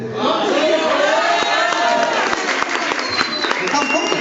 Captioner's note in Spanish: aplausos del público